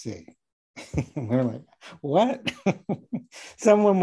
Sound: laughing

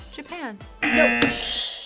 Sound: buzzer; buzzer rings

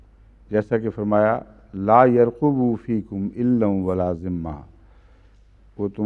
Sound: Arabic

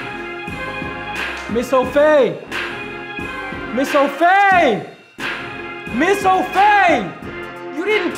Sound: yelling

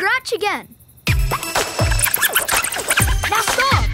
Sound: squeaking, scratching

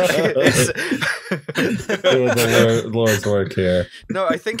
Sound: laughter

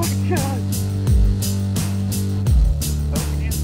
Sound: chuckles

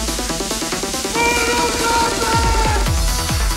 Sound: mortal kombat shout

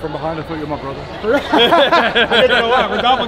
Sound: group laughing

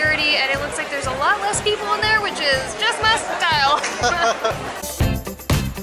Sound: laughter

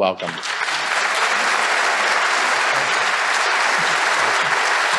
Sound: audience applauding

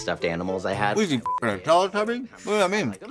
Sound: beep

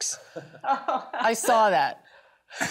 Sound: laughing

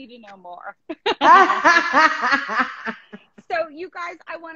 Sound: laughing

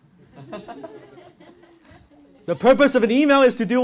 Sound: audience laughs

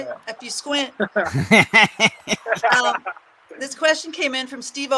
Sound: everyone laughing

